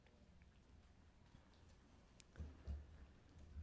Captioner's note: none